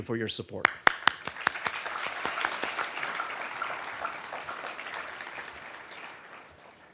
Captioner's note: audience applauding